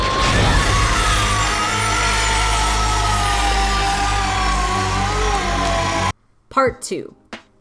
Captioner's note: agonizing screams of death and sweet justice